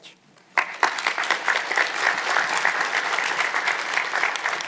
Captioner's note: audience applauds